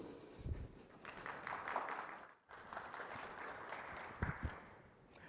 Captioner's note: applause